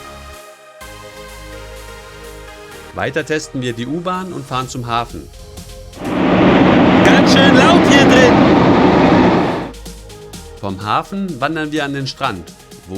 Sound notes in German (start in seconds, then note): 6.0 Lautes Fahrgeräusch